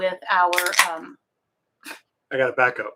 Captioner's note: beer can opening